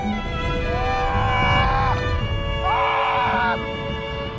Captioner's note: screaming